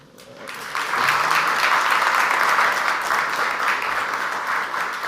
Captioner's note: audience applauds